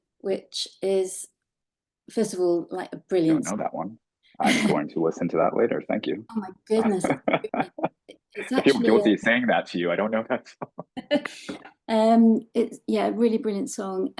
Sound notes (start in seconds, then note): 4.4 laughing; 6.7 laughing; 11.6 both laughing